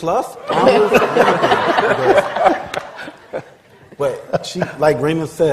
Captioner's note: laughter